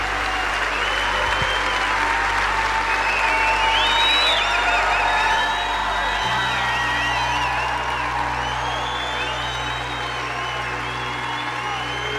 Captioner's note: applause